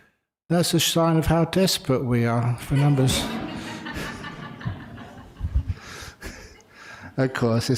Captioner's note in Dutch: lachen